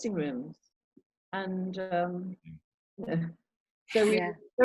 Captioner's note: Tom chuckling